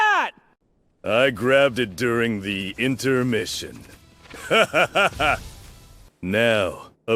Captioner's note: laughs